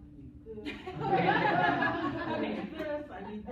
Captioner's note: laughter